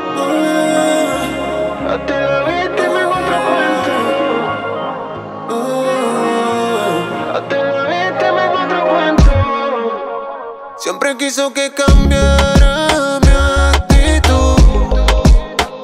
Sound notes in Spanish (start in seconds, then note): 5.0 Ohh